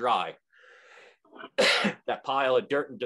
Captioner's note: coughing